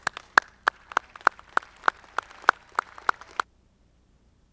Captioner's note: audience clapping